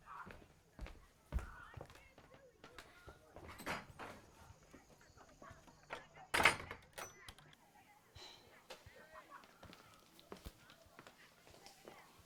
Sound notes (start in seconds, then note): 5.8 door clicking closed